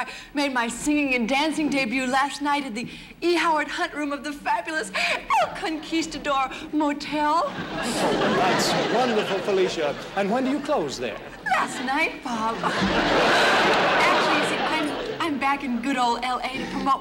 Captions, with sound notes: made my singing and dancing debut last night at the E. Howard Hunt room of the fabulous El Conquistador Motel. - [audience laughing] - That's wonderful, Felicia. - And when do you close there? - Last night, Bob. [audience laughing] Actually, you see, I'm back in good ol' L.A. to promote my